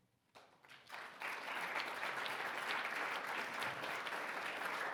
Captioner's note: audience clapping